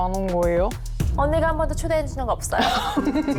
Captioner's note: dramatic sound effect